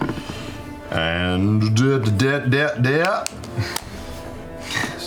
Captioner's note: stutters